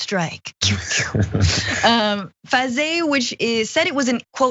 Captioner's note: laugh